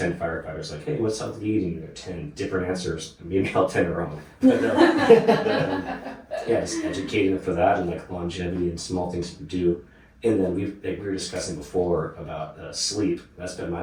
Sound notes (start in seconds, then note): 4.4 audience laughing